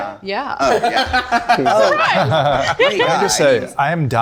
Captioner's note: group laughing